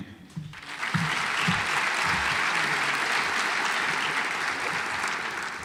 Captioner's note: audience applauds